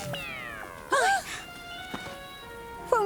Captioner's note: gasp